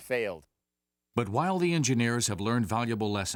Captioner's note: voiceover